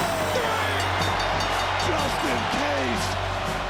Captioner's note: bell rings